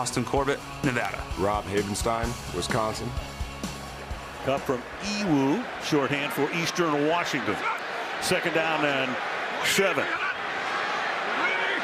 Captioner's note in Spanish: hablan en inglés